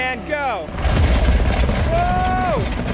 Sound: machine whirring and crunching

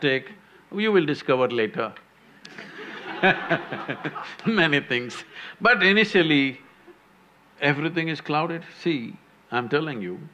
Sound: laughter

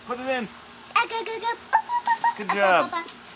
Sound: babbling

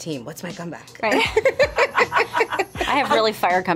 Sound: laughs

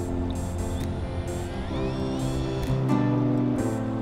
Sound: drill whirs

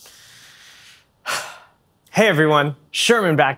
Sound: disappointed sigh

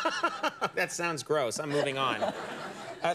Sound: Conan laughs

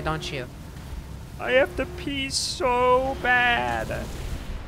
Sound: goofy voice

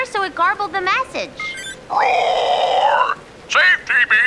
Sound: low, gruff voice

